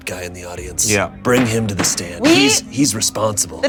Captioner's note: gavel thwacking